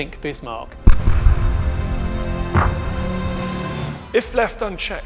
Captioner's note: projectiles fire